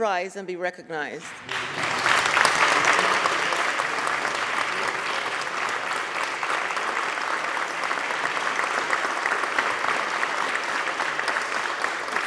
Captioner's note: applause